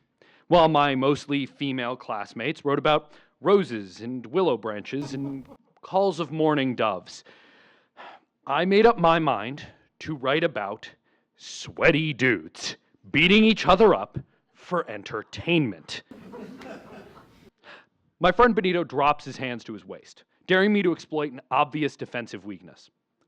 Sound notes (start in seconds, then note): 16.2 scattered laughter